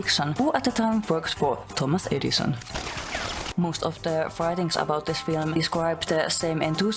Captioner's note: guns shooting